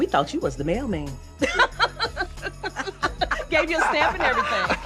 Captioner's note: women laugh